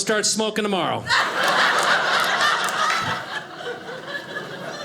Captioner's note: audience laughing